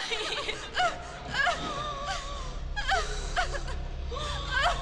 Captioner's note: girls sobbing